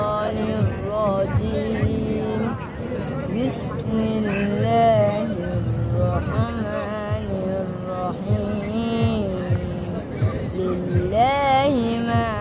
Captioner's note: surah of the Holy Quran are being recited